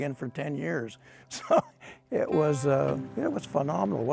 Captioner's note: laughs